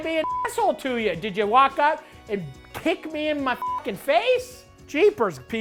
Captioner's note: beep; beep